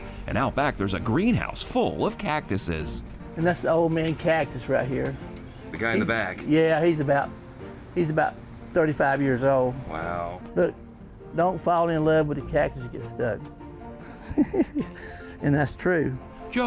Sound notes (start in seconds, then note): 14.0 laughs